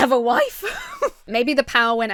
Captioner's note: laughs